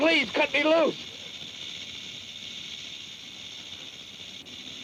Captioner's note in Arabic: خشخشة الثعبان